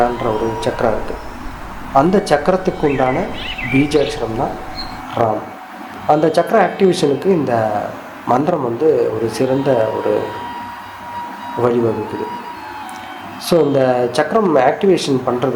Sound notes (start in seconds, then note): 3.2 subtle vibration